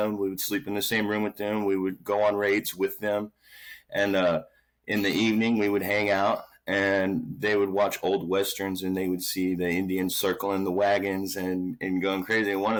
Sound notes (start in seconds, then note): none